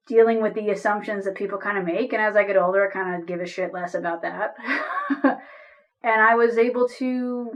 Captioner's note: laughs